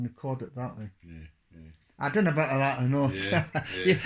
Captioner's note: laughs